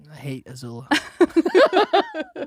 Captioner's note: both laughing